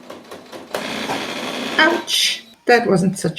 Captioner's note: sewing machine grinding